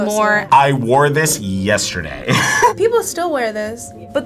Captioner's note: laughs